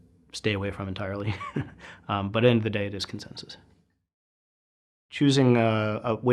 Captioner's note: laugh